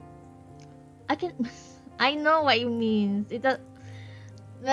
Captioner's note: laughs